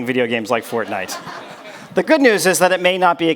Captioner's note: audience laughs